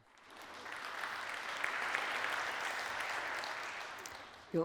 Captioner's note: applause